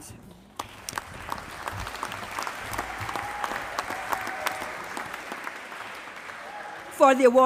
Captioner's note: applause